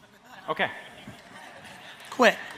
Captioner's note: audience laughs